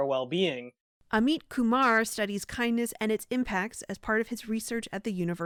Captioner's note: voice-over